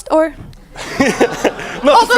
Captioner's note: audience laughs; laughs